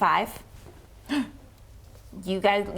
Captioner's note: gasp